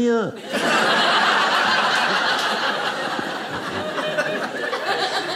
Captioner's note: audience laughing